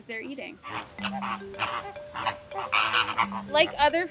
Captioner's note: flamingos squawking